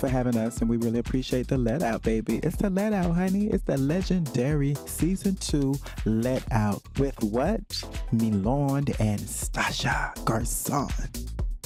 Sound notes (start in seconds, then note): none